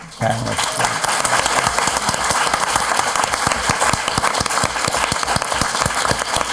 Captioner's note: applauding